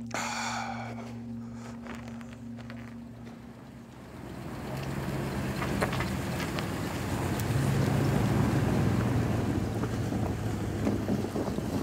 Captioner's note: speaking cree language